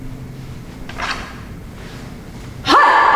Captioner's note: blade being drawn